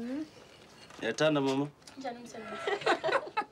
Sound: speaking Swahili; laughing

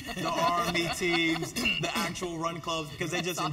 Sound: laugh

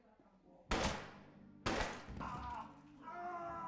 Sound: gun firing; screaming

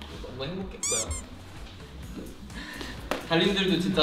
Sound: bunny being pressed

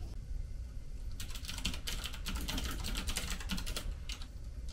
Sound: keyboard clacking

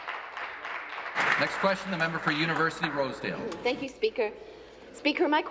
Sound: applause

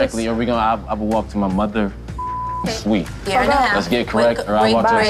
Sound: beep

